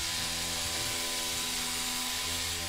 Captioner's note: whirring